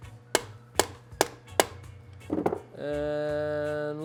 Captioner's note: thudding